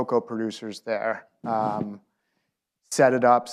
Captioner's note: laughs